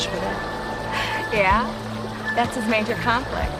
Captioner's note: laughs